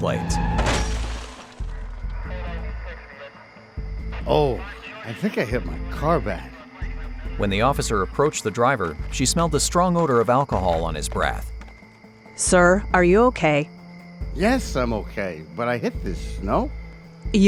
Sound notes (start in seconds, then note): 0.1 car brakes; 0.2 crashing metal; 0.4 glass breaks; 3.2 police radio chatter; 5.5 slurred speech; 8.3 footsteps; 9.3 crickets; 14.4 slurred speech